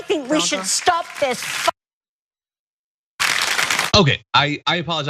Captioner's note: applause